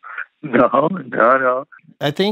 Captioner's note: laughter